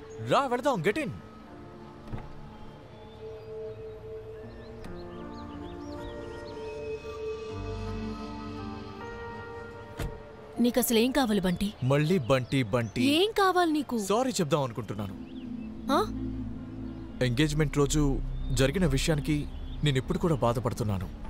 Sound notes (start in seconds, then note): 1.9 car door opens; 9.8 car door closes